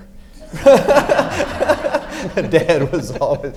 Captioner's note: everyone laughs